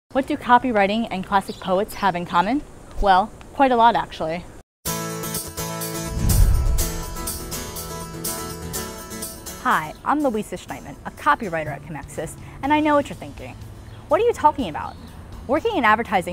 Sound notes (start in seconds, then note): 4.5 swoosh